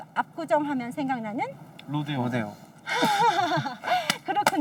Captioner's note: laughs